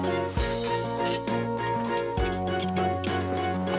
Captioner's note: squeaking